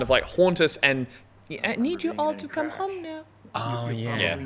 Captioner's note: child voice